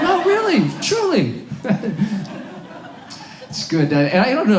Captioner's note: audience laughs